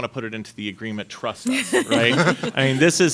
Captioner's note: panelists laughing